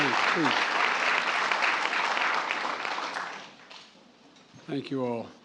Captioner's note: applause